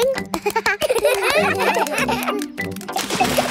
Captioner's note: children laugh